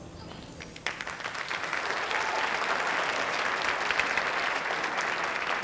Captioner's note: audience applauding